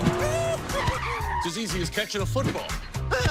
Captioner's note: car brakes